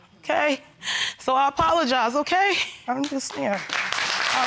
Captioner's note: sniffling